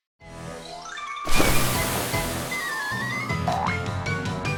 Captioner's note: flap flap